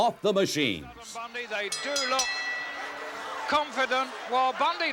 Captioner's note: bell rings